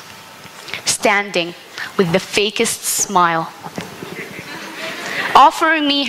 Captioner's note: laughter